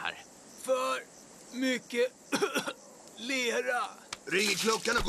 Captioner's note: coughs